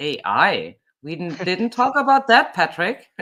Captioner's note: chuckles; chuckling